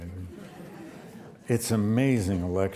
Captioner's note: audience laughs